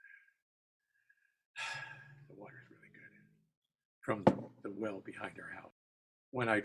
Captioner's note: exhales